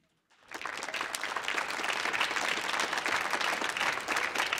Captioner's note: audience applauding